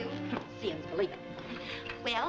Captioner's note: scoffs